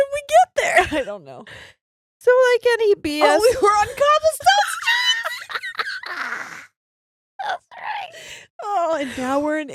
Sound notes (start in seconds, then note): 5.9 murmurs